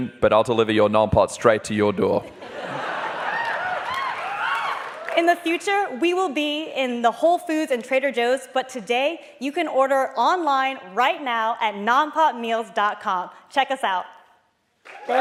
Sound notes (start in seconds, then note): 2.4 laughing and cheering